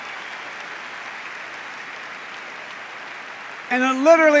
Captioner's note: cheers and applause